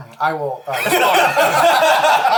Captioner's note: all laugh